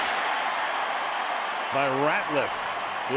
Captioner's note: cheering